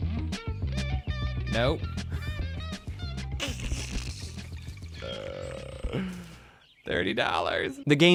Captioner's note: laughter